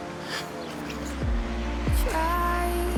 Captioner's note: crying